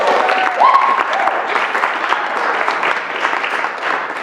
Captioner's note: applause; cheering